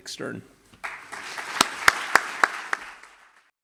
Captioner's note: applause